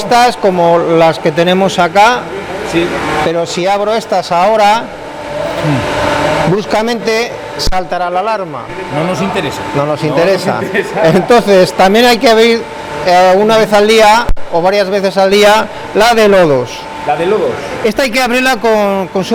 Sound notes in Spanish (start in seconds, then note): 10.6 risas